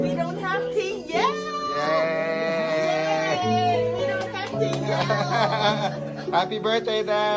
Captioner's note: clapping